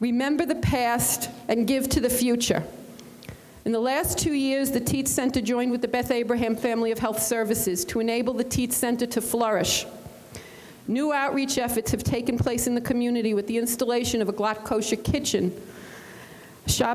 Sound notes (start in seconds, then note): none